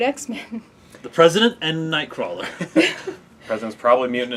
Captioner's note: laugh